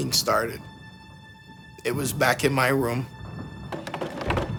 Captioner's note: clattering